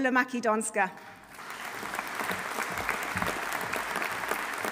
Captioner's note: audience applauding